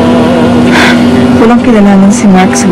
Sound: Leonor sighs sharply

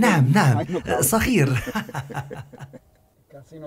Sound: laughing

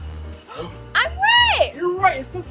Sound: both gasping

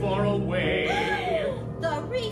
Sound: gasp

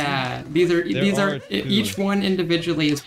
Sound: stutters infinitely

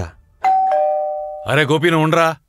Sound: calling Bell

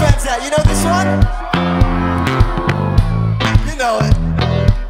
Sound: audience cheers

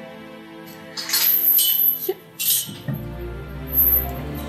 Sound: chains rattling

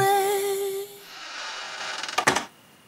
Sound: song ends; door creaks shut

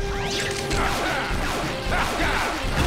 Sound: blasting

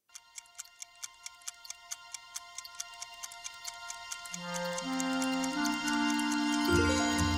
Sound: clock ticking, music playing

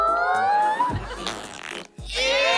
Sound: farting

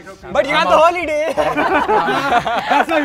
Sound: laughter

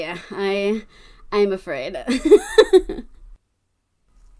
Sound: laughs

